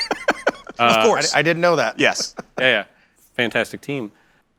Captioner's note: laughter